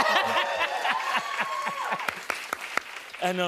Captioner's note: cheers and applause